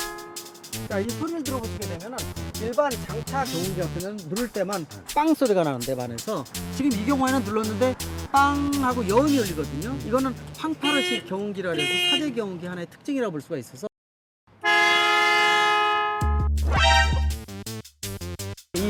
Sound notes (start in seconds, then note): 11.7 genuine Car Horn; 14.6 generic Car Horn